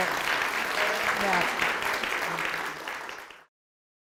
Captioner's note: audience applauds